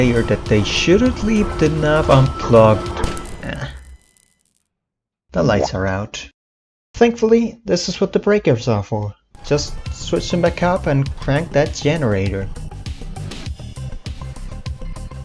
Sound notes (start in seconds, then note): 2.9 bzzzt; 5.4 boowomp